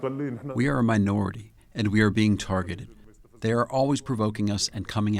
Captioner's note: through translator